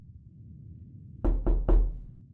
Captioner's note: knock at the door